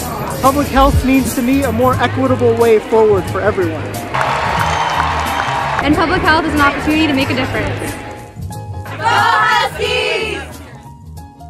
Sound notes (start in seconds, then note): 4.1 cheering